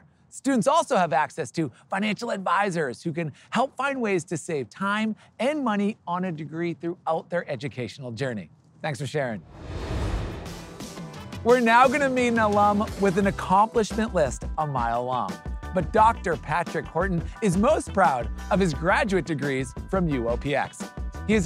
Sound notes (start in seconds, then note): 9.4 transition whooshing; 9.6 upbeat music